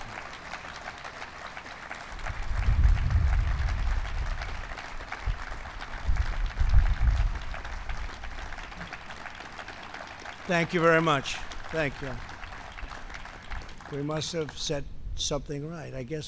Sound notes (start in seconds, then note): 3.6 applause